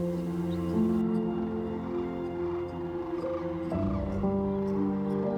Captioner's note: crane calls